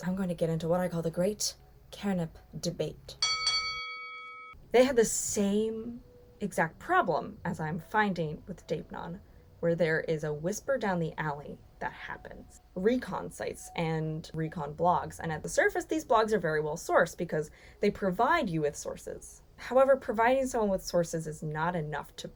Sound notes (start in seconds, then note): 3.2 boxing bell ringing